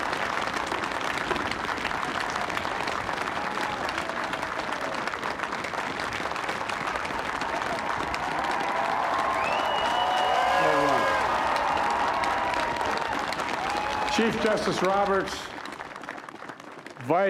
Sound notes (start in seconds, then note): 3.8 applause; 3.8 cheering